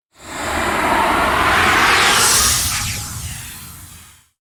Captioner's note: logo whooshing